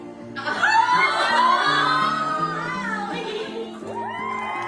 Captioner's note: girls yelling; people cheering and applauding